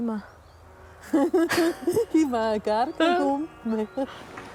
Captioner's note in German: Lachend